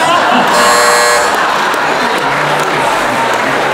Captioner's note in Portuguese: campainha